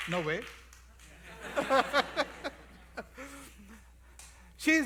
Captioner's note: laughter